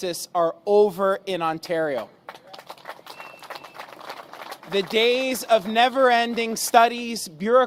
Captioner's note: applause